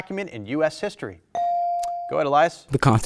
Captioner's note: buzzer dings